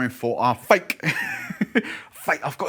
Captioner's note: laughs